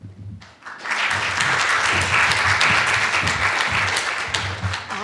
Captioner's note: applause